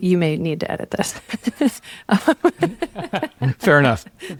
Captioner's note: chuckles